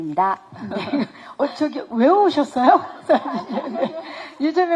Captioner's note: laughs